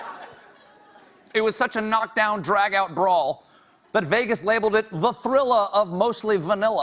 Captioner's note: laughter